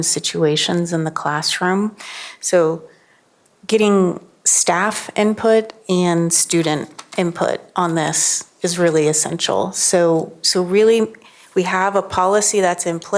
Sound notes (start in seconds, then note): none